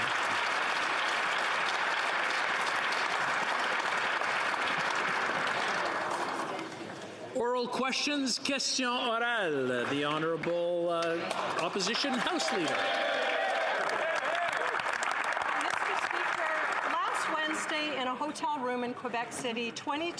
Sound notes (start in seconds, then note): 12.8 speaking French; 17.0 some Applause